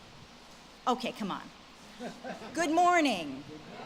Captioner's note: audience laughs